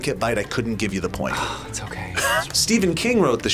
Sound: sighs

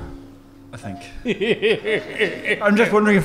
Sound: chuckling

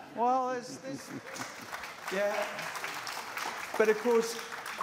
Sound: applause

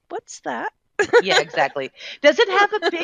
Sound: laughing

